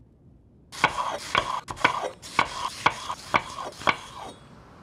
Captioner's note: knife chopping sounds